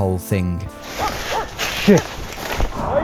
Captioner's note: dog barking